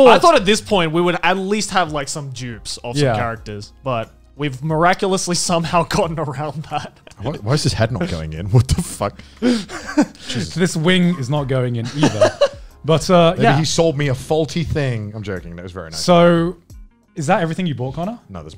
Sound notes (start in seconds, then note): 9.4 laughs; 11.8 laughs